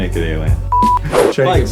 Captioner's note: screen beeps